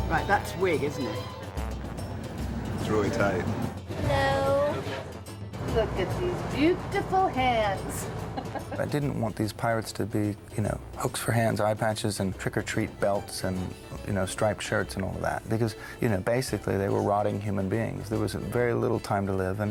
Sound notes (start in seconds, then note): 8.2 woman chuckling